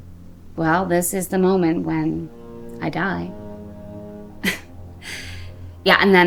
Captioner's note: chuckles